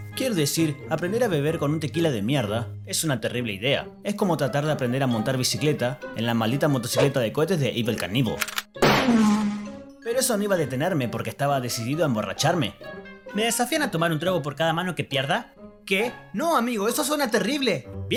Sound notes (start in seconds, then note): 8.3 click - WHZZZZZZZZ